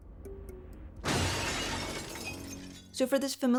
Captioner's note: glass breaking